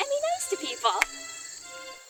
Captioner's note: claps